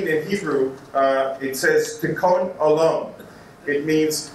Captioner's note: speaking Hebrew